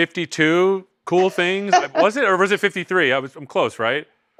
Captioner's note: laughs